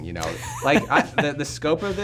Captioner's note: laughs